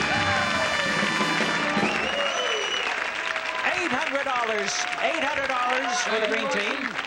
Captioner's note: audience claps and cheers